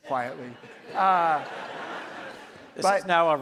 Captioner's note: audience laughs